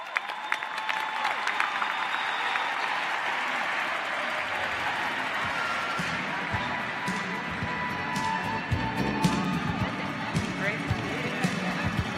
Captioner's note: applause